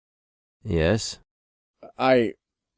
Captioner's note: none